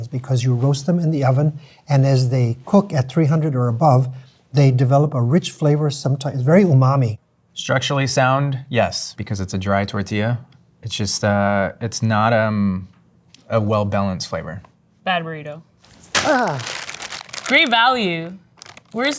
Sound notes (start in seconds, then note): 15.8 wrapper crunching